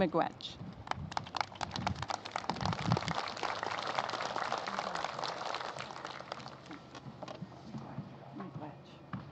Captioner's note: applause